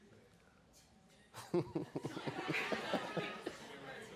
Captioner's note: laughing